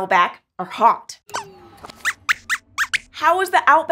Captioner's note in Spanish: Squeaks chirría